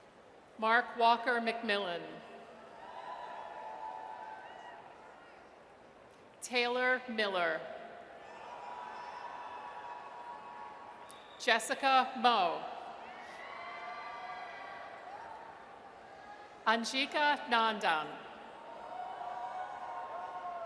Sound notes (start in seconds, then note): 8.2 audience cheers; 13.0 audience cheers; 18.6 audience cheers